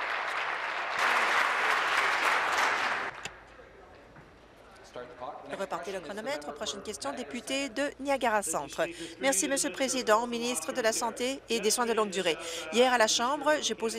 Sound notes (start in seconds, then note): 0.0 applause